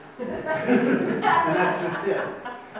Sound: audience laughs

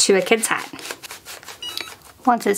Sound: hat press beeps

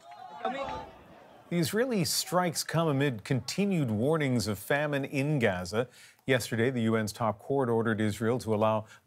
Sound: cheers and Applause

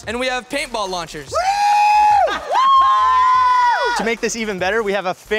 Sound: hollering

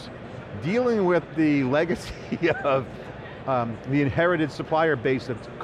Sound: laughs

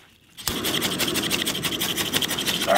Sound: frantic scraping

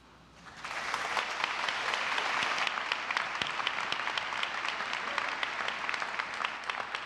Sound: applause

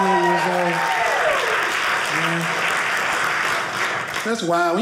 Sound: audience cheering

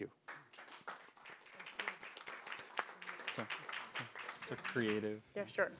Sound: audience applauding

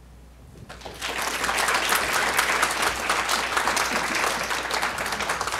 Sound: audience applauding

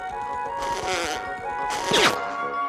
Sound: zipping off

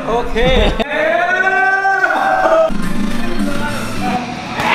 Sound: laughing

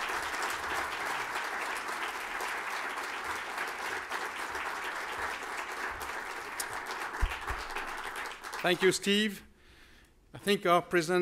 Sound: applause

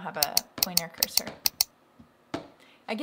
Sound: clicking

